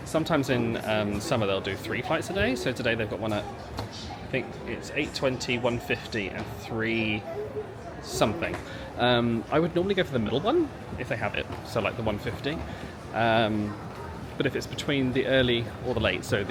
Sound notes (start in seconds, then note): none